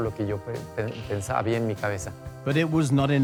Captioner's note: in English